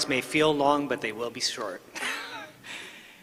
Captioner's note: laughter